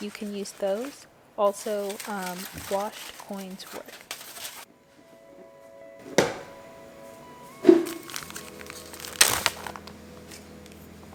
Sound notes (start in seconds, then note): 7.5 sound of opening ziploc bag